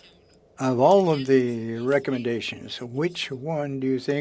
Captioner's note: speaking French